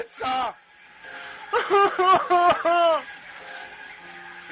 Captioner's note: bawling